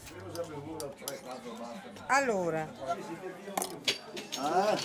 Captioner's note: speaking in Italian